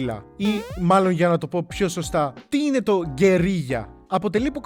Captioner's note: with a Spanish accent